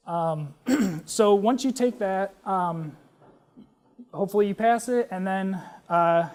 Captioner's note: cough